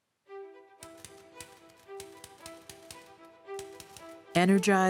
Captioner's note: typewriter keys clacking